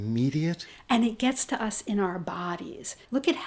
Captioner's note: voiceover